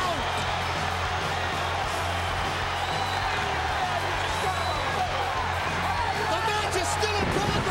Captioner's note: applause